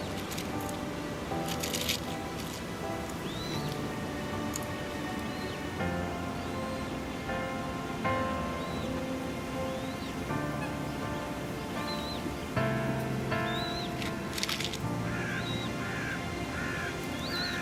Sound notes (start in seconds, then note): none